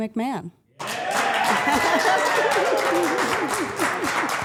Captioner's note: everyone applauds